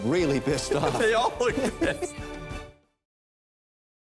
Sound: laughing

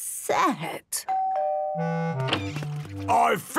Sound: doorbell dinging

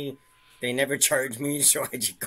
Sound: chuckles

